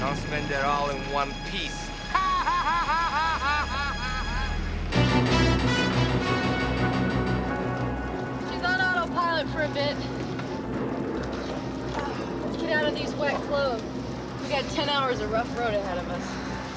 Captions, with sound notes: Don't spend it all in one piece. (laughing) (dramatic music) - She's on autopilot for a bit. (thunder rolling) let's get out of these wet clothes. We got 10 hours of rough road ahead of us.